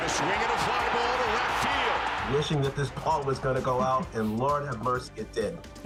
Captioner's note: cheers and Applause